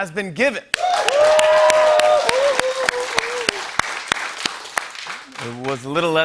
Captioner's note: cheers and applause